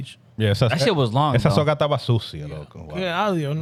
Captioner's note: speaking In Foreign Language